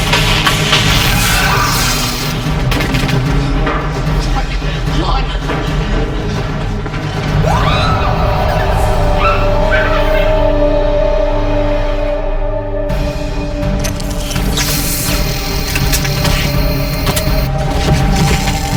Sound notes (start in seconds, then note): 0.0 electric buzzing; 7.4 Vanessa screams; 9.4 Jaime laughs; 9.4 dramatic music; 13.8 electric buzzing